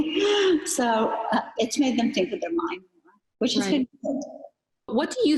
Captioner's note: chuckles